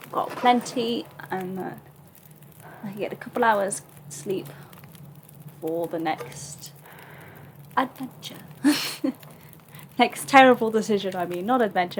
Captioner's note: laughs